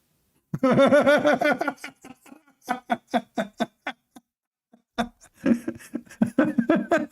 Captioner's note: Ketawa